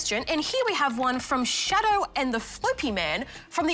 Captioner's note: none